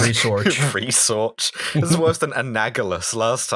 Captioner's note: laughter